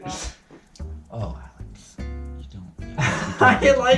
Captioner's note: laughs